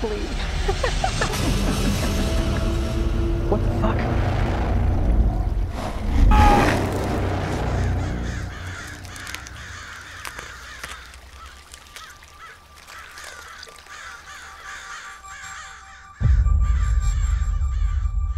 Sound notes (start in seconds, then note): 0.6 Gabriel giggles; 6.1 stranger screams; 7.3 crows cawing, flesh ripping